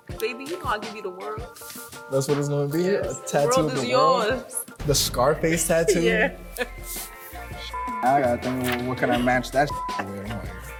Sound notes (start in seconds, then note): 5.6 laughing